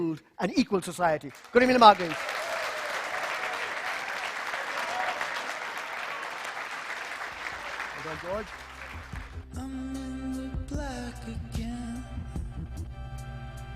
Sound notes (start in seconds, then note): 10.2 applause